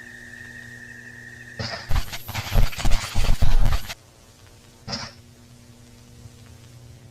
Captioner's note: crickets chirping; static hissing